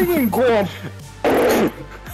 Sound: yells in mic

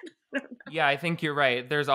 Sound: laughing

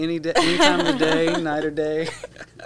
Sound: laughing

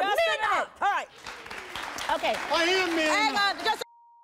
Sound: audience applauds

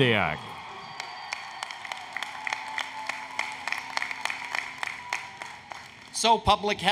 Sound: applause, Cheering

